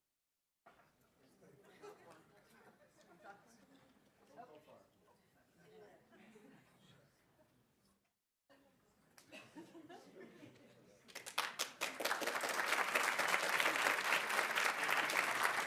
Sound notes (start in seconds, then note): 2.8 students chatting; 11.1 audience applauding